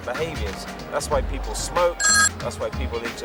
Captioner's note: phone ringing